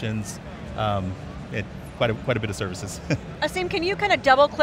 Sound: chuckles

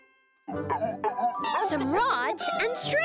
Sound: grunting

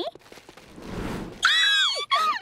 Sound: squealing

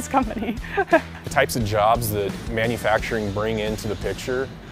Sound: laugh

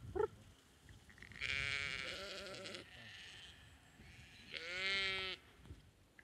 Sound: sheep bleating

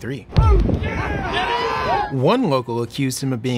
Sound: people shouting

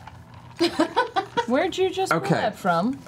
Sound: laughs

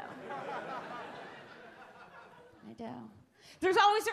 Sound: audience laugh

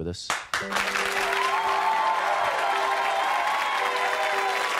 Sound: audience cheering and applauding

